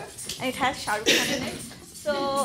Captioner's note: bells jingling